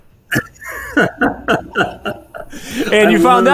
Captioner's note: laughs